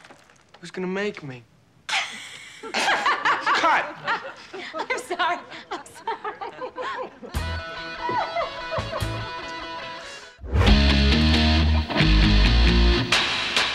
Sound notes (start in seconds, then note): 2.2 laughs; 6.8 laughs